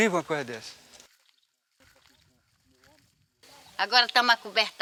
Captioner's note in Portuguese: Passos do cavalo